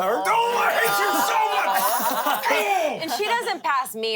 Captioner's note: everyone laughs